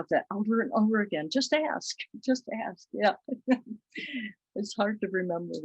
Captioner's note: chuckles